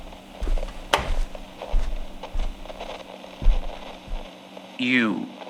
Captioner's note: Listener closes door as Alastor walks in fx